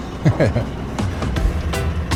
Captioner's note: laughs